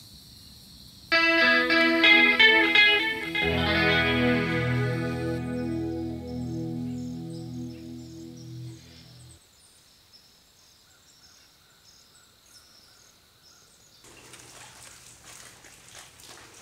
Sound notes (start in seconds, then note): 1.1 upbeat transition; 8.3 birds singing and calling